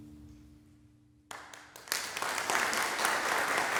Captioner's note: applause breaks out; applause continues